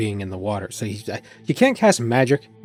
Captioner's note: stammering